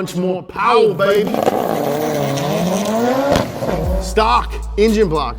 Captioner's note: car engine revving